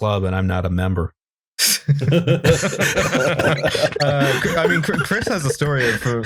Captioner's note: laughter